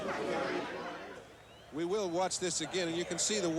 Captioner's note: crowd ambience